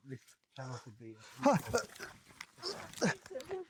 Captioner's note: gasps